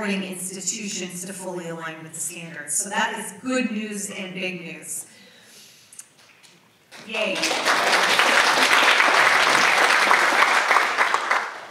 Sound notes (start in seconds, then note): 6.9 audience applauds